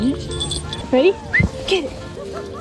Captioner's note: whistles